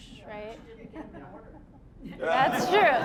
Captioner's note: audience laughing